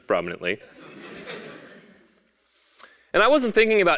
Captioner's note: laugh